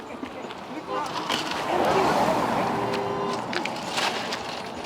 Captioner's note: car whooshes